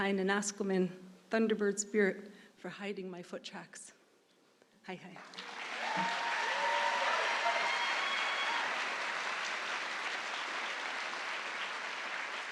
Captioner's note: applause